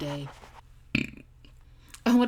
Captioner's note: burp